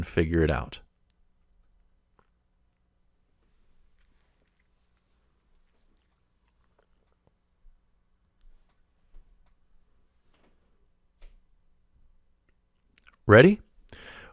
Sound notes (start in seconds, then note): 1.0 pause